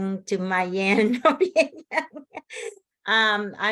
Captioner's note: laughs